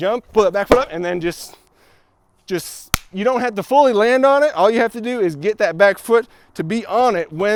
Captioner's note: clap